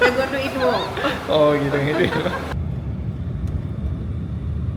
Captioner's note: laugh